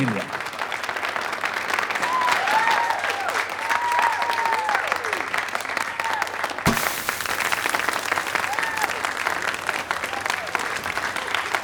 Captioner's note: audience applause